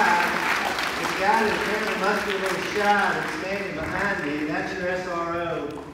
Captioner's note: applause